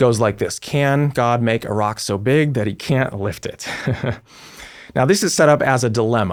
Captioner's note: chuckles